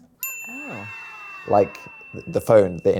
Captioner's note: bell beeps